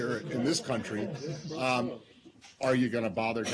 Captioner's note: laughter